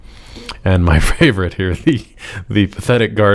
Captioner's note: chuckles